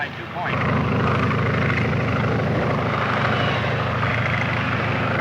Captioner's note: airplanes buzzing